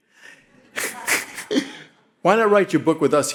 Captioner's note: all laughing